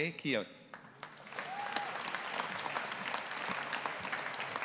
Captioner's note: audience applauding